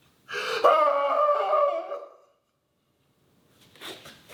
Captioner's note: sobs in anguish; screams